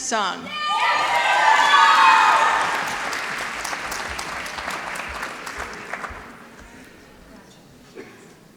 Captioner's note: applause